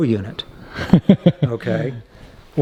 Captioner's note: laughing